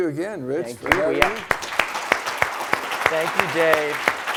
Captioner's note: applause